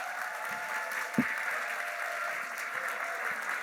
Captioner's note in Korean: 박수와 환호